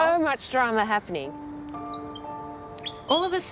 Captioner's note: bird chirps